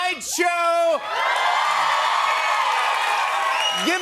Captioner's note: cheers and applause